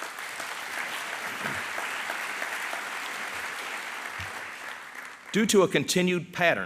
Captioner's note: applause